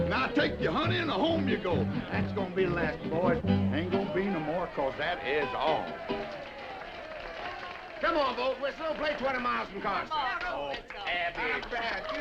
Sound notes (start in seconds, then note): 5.6 all applauding